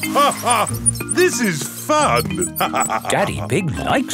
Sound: laughs

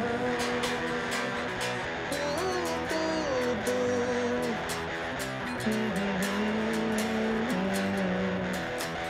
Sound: humming

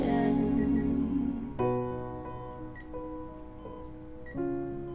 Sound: monitor beeping

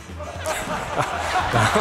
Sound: laughs

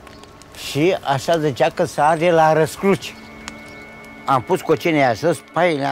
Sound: speaking in foreign language

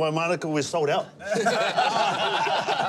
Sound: laughter

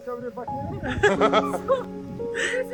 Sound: grandpa breaks down emotionally

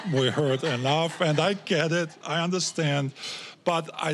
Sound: audience laughing

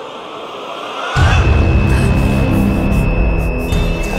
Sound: telepathic screeching

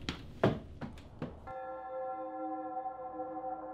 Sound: church bell chimes

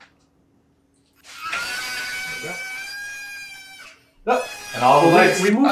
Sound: mild scream

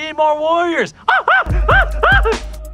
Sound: yelping

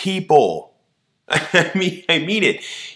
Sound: laughs

